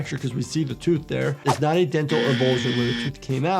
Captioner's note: buzzer buzzing